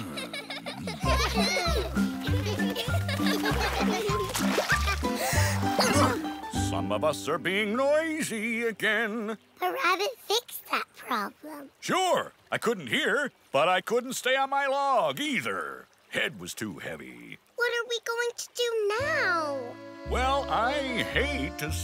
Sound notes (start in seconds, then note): 0.0 grumbling; 0.0 gibble goose girls laughing; 5.1 gasping